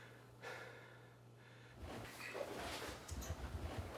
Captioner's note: Addison pants heavily; footsteps descending